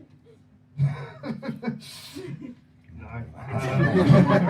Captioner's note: laughing